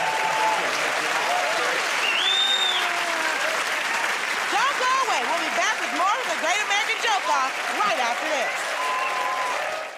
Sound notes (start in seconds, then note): 0.2 cheers and applause; 2.0 whistles